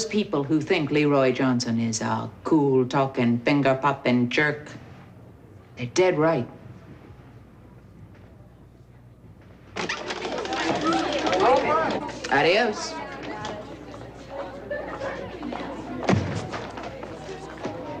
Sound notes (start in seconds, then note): 10.1 students chatter in hallway